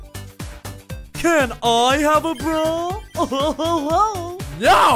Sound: chuckles

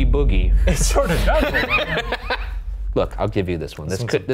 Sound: both laughing

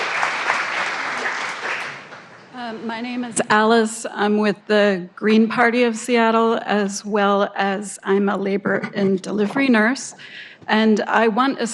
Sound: applause

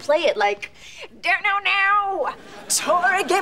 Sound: imitating guitar

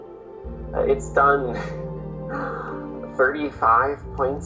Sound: chuckles

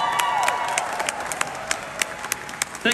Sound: crowd cheers

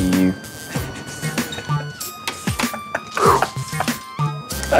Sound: Vinny laughs

